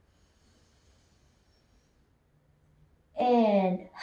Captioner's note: inhales